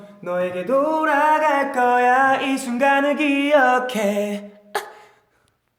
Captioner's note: hiccup